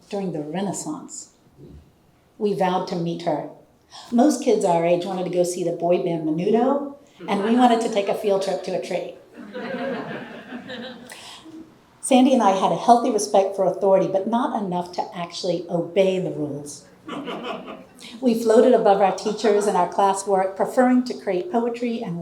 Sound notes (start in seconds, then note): 9.4 audience laughing; 17.0 audience laughing